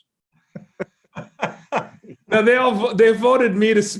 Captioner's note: laughs